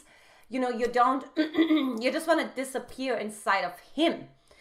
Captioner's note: clearing throat